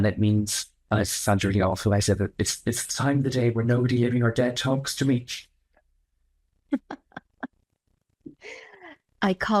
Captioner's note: laugh